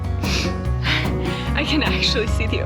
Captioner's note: sniffling